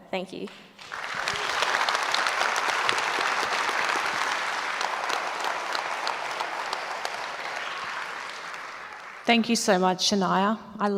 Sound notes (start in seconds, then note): 1.1 audience applauds